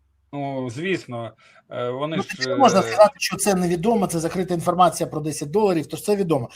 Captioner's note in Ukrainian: сміх